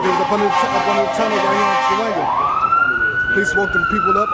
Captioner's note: sirens blaring